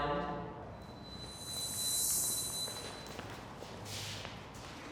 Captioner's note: pitch whirring